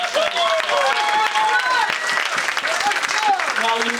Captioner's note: audience applauds